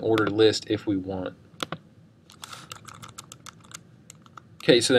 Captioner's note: keystroke clicking